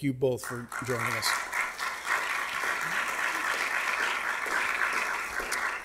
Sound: audience clapping

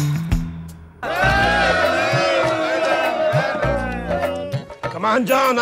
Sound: crowd cheering

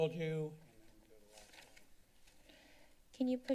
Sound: paper rustling sound

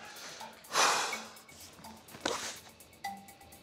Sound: breathes out

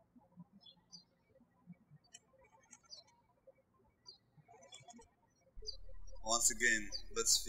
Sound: birds chirping

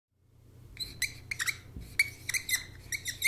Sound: marker squeaking

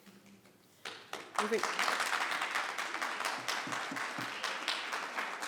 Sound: people clapping

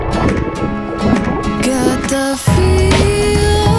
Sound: upbeat bright music; water splashing

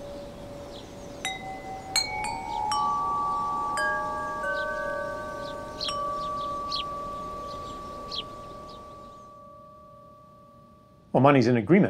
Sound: wind chimes

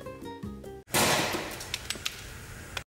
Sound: piano music; bang

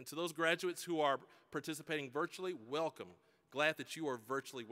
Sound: none

